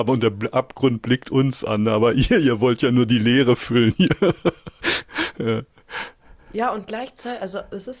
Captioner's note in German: gelächter